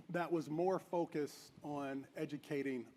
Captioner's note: none